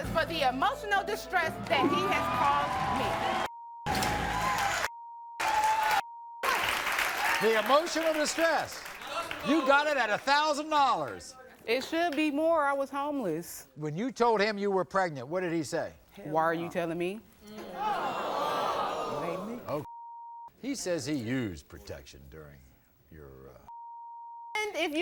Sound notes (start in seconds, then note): 3.4 cheers and applause; 17.6 audience boos; 24.3 beep